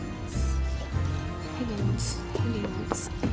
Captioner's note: whispering to self